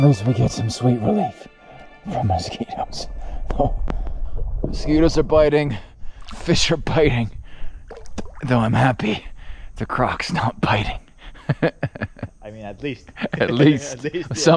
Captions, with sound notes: At least we get some sweet relief from mosquitoes. Mosquitoes are biting. Fish are biting. Though I'm happy the croc's not biting. (laughs) - I mean at least. - At least. - At least.